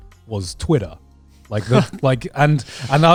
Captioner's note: laughing